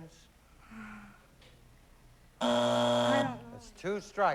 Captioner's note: sighs; buzzer